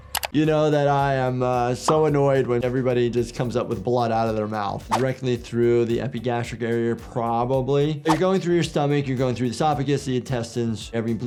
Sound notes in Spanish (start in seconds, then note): none